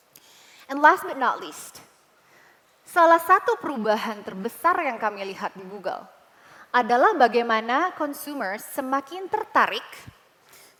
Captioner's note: non-english speech